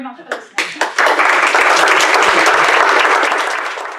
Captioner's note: applause